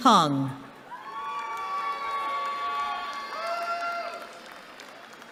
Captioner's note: cheering